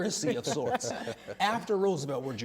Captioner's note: laughter